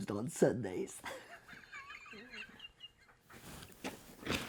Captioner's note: chuckles